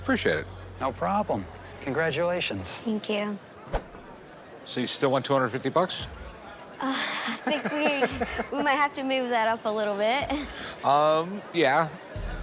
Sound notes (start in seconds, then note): 6.4 chuckles